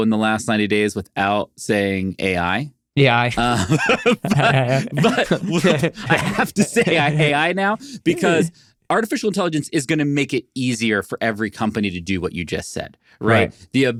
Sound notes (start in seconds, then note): 3.3 laughing